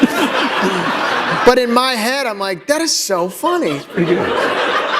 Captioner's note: laughter